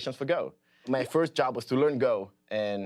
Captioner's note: none